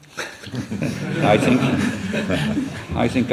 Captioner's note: laughter